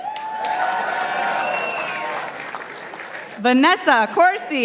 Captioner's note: participants applauding